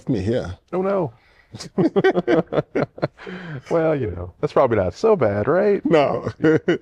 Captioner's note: laughter